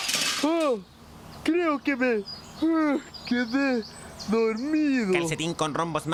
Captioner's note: crashing sound; yawn